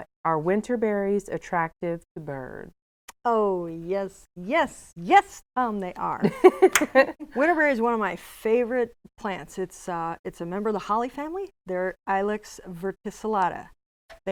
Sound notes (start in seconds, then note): 6.2 laughing